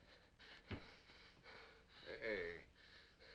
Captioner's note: Cooncat gasping